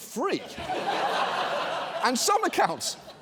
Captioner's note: audience laughs